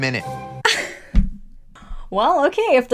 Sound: laughing

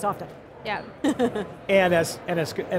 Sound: giggles

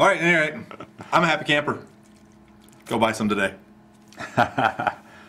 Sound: laughs

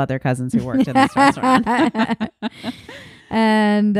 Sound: laughing

